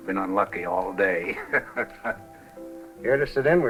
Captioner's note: laughs